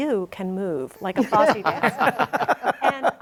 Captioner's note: all laugh